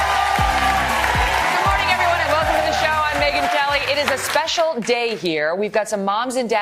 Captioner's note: applause